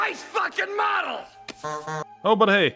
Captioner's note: honk honk